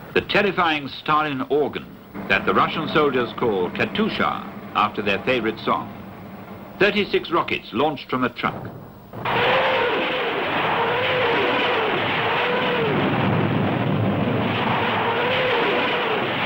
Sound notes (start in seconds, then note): 9.1 rockets whizzing; 13.1 explosions booming